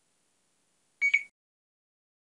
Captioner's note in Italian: beeep